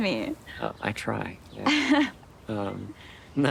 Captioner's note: Zoe chuckles